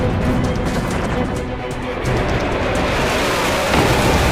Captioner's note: military chatter